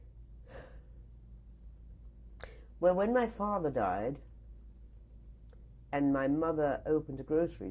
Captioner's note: sighs